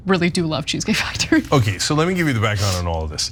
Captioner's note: laugh